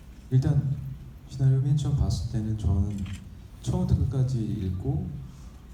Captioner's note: speaking in foreign language